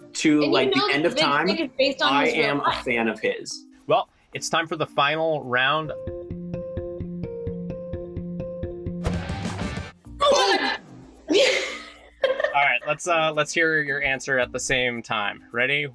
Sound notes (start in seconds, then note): 6.3 upbeat music; 11.3 laughs